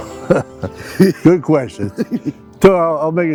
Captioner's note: chuckling